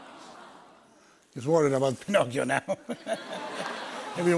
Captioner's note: laughs